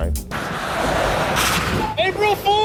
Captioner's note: car tires screech